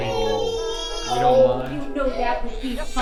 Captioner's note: baby crying